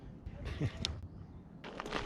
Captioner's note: laughs